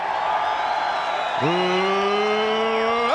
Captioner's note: crowd cheering